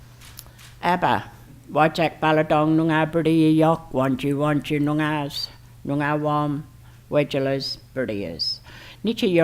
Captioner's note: foreign Language Spoken